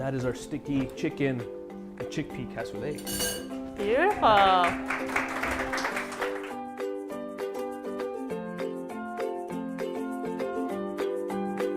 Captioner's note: clapping